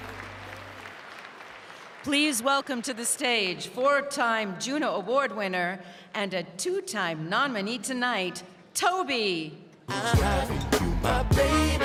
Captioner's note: cheering and applause